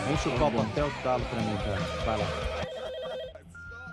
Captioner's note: phone rings